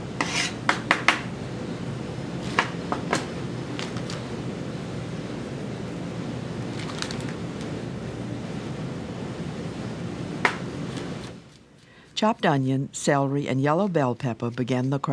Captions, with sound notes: - [Voiceover] Chopped onion, celery, and yellow bell pepper begin the crab mixture.